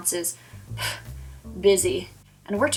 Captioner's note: phew